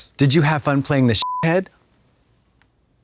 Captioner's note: beep